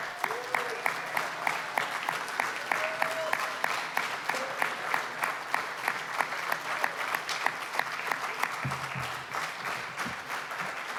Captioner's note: applause